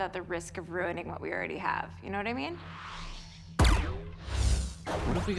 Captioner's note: system whirs